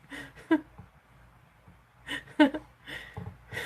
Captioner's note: laughs